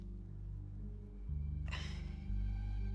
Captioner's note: Mrs. Hill sighs